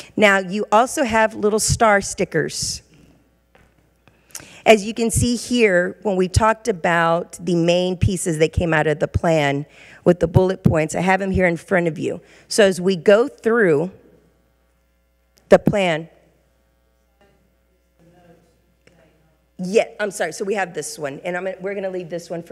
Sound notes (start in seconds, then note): 17.2 regent speaking faintly